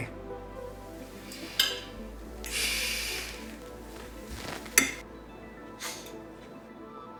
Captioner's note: gentle music continues; silverware clinking